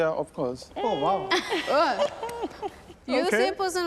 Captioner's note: laughing